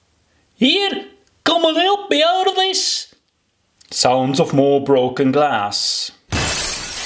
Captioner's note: sounds of more broken glass